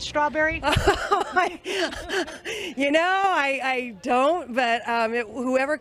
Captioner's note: laughter